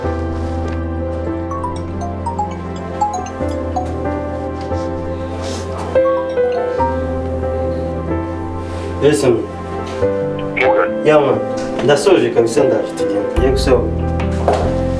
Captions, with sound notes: (phone ringing) Yes Samy! Yes Morgan! I am done, you can come and we go, I am coming down...